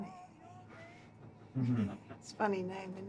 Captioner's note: laughing